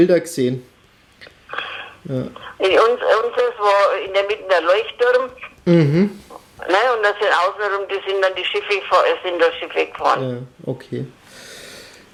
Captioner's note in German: lacht